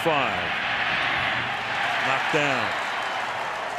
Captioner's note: cheering